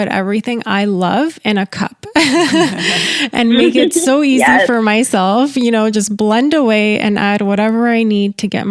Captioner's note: laughter